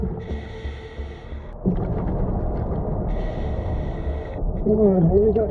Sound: chilling music continuing; oxygen whooshing continuing

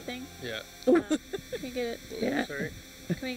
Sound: laughing

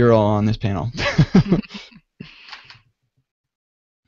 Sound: laughter

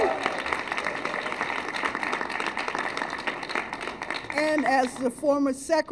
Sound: cheers and applause

